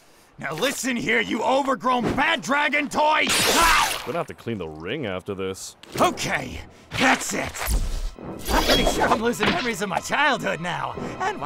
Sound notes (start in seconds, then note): 3.4 energy blast; 3.4 guttural groan; 8.4 bamf!